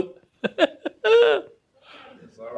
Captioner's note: chuckles